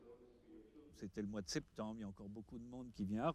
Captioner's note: foreign spoken audio